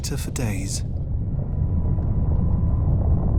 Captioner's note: loud rumbling